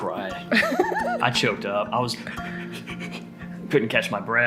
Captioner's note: laughs; breathing in